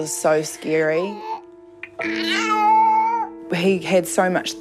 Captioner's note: cries